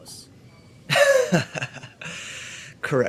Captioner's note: laughter